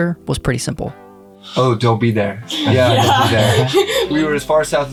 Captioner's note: laughs